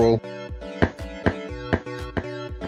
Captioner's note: stomping